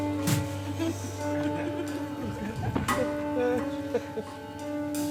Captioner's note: bags thud; audience laughs